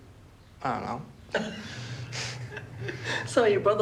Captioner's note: both chuckle